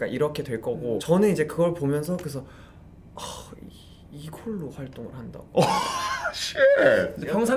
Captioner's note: sigh